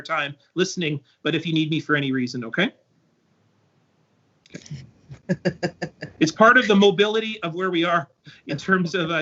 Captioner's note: laughter